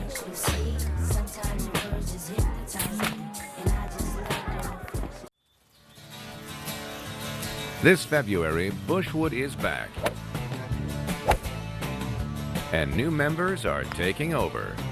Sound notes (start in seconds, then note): 6.2 guitar music; 11.2 golf swing